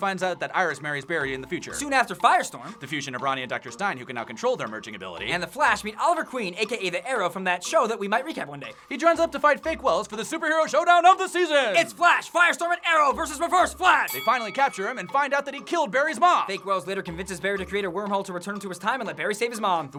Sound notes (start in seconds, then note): 10.0 announcer voice; 14.0 bell dings